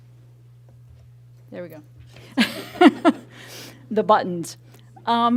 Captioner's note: laughing